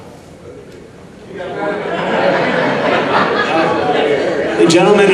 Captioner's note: audience laughing